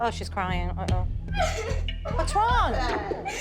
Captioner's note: crying